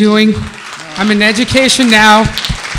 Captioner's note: participants applauding